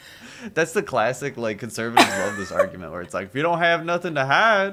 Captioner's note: laughter